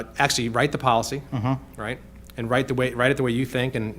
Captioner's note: none